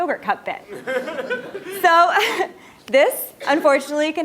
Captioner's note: laugh